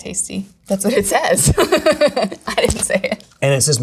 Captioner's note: giggling